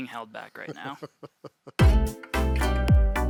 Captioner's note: chuckling; slow cheerful music